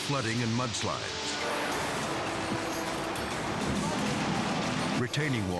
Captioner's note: torrent rumbling